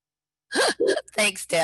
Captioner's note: laughs